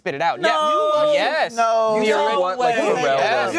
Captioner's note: sounds of disagreement